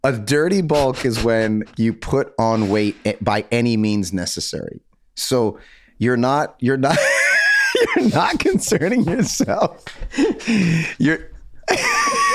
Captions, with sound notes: A dirty bulk is when you put on weight by any means necessary. So, you're not concerning yourself. (laughs)